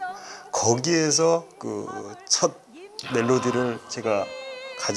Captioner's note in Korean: 감탄